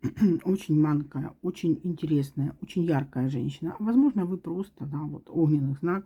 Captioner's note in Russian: откашливается